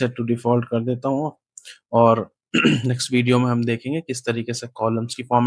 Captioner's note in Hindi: गला साफ़ करने की आवाज़